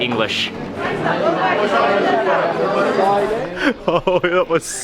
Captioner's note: background chattering